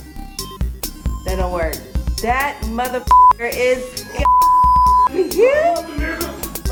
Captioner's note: beep